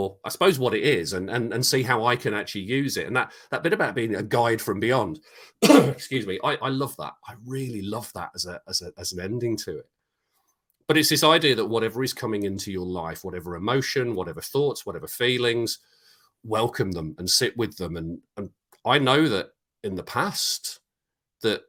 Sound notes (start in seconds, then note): 5.6 coughs